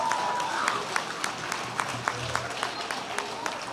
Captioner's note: cheers and applause